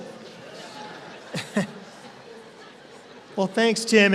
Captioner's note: laughter